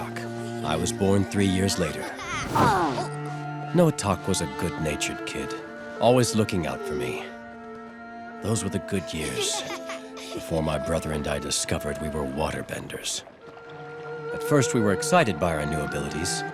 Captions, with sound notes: I was born three years later. [grunting] Noatak was a good-natured kid, always looking out for me. Those were the good years. Before my brother and I discovered we were waterbenders. At first we were excited by our new abilities,